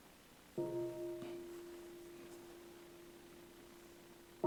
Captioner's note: bell chimes